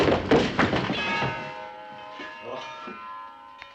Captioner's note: clock chimes